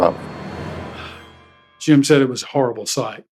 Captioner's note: sighs